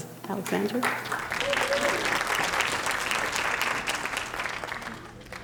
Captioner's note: audience applauding